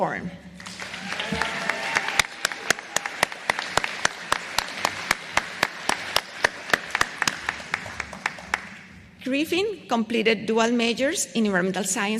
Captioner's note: applause